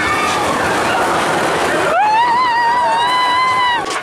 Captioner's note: screaming